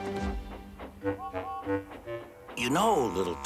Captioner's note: toot toot